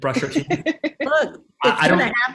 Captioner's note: laughs